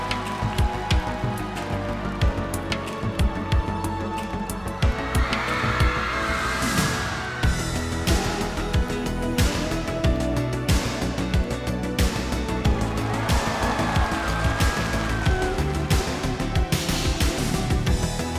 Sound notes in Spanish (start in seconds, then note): 10.2 Relajada